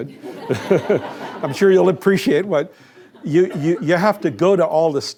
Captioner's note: laughter